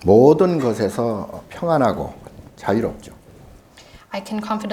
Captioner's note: speaking Korean